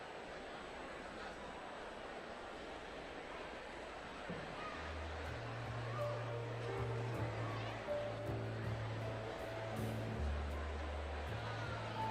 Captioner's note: applause